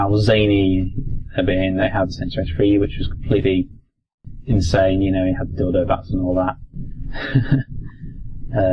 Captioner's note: laugh